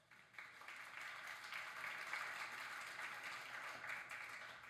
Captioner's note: audience applauds